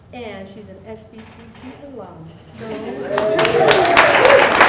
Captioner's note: applause